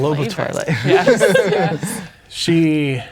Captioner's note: players laughing